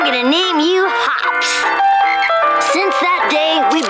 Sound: croaking

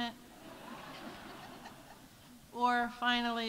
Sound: audience laughs

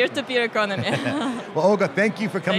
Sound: laughs

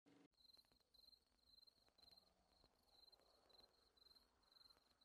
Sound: crickets chirping

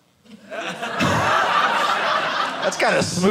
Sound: audience laughing

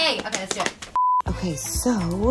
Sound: beep

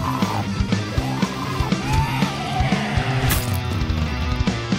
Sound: zombie growling

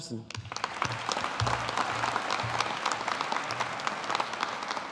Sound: audience applauding

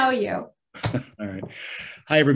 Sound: chuckles

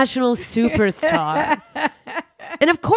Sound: laughing

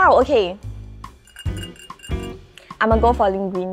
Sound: fingernails against glass

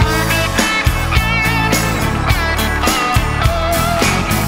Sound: crowd cheers

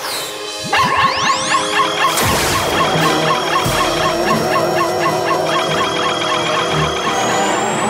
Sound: barking

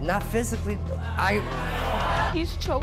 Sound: audience jeering

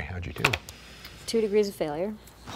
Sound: rolling dice

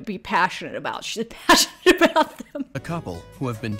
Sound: laughs

